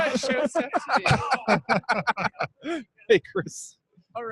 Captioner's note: all laughing